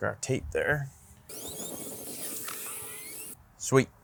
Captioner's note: tape forwards